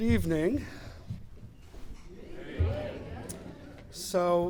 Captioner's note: crowd replies